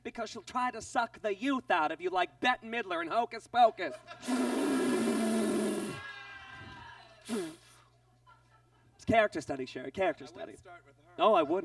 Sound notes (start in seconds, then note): 4.2 inhales deeply; 6.3 audience groans; 7.2 inhales quickly